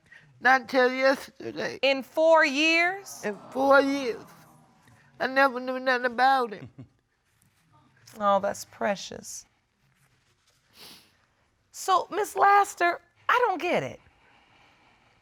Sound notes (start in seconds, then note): 2.9 audience exclaiming